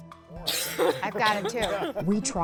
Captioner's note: coughing